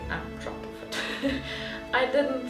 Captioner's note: laugh